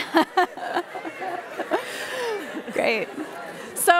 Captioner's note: laughing